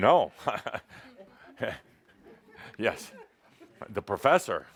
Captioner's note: Adamus chuckles